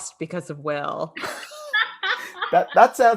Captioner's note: laughing